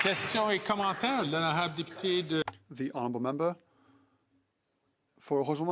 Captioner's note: some Applause